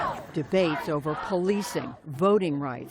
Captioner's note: chanting